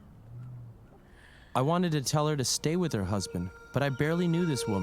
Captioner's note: cries; 哭泣